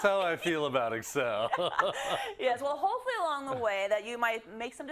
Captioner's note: laugh